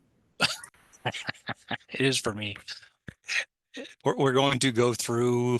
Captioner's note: laughs